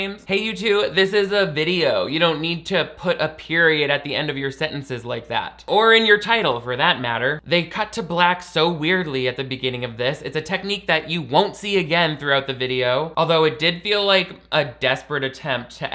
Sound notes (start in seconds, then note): none